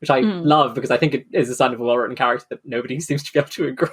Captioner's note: laughing